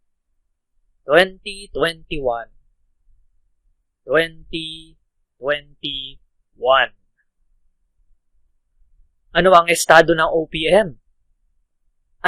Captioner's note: filipino